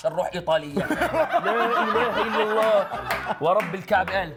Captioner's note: laughs